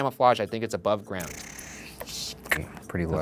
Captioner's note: mouth smacking